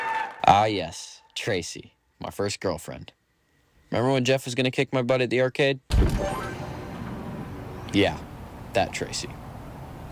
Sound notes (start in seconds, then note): 6.0 machine chimes